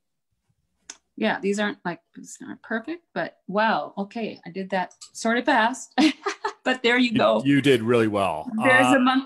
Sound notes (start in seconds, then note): 5.7 laughs